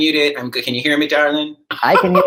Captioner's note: laughs